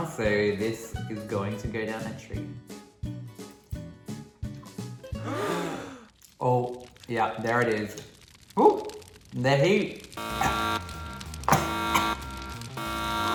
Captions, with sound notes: So this is going to go down a treat. (people gasping) Oh yeah, there it is. Ooh the heat. (siren blaring)